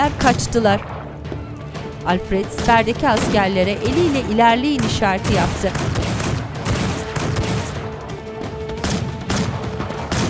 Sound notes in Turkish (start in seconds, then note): 2.4 Silah sesleri; 2.7 Müzik - Gerilim